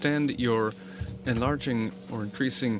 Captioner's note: speaking French